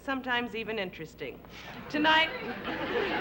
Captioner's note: laughter